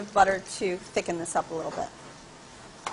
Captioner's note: sizzling